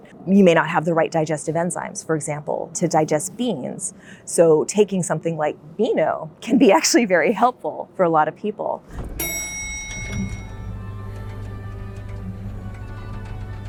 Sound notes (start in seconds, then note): 8.9 elevator dings; 10.0 classical music